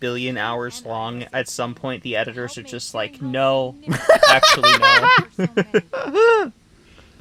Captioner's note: laughs